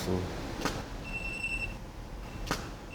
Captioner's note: beeping